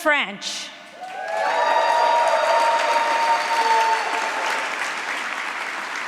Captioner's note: applause